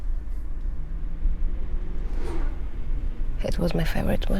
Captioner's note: car engines revving